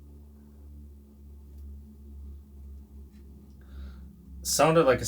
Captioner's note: faint scratching hisses